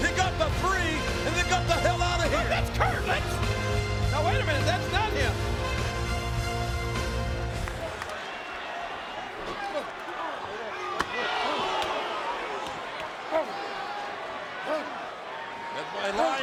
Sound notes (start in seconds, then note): 7.8 audience cheering; 10.0 The Undertaker grunting